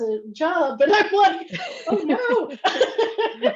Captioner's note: laughs